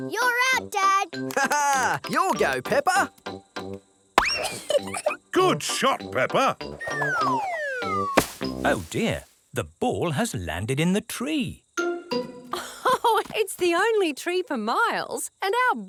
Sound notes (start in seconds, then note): 4.3 giggles; 12.6 laughs